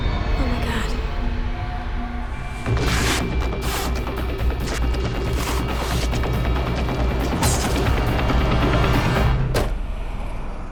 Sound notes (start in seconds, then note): 2.4 tape ripping; 2.4 frantic music